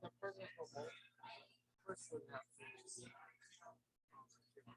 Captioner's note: people chattering indistinctly